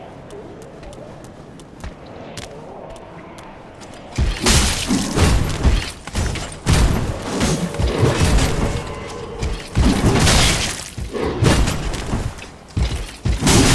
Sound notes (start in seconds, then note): none